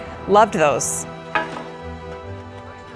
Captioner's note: metal clanks